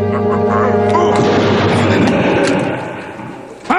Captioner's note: gunshot